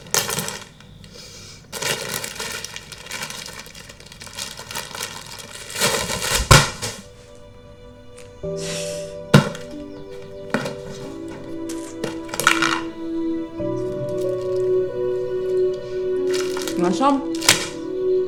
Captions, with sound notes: [thud] [sighs] You want some?